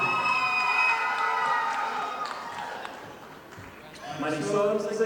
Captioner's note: audience applauding